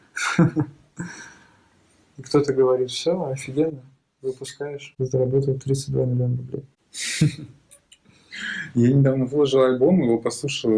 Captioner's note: laughs